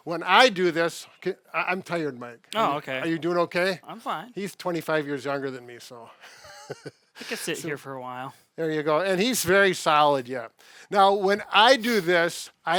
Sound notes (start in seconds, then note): 6.2 chuckles